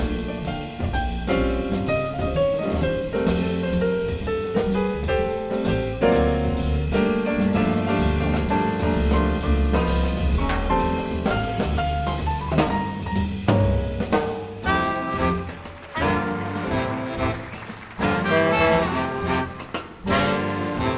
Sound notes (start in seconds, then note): 15.0 audience applauding; 17.8 smooth jazz music